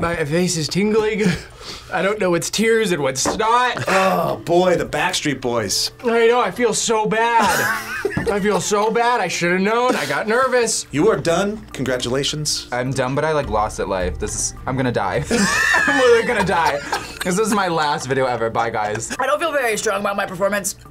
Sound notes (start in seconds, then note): 7.4 laughs; 15.2 both laugh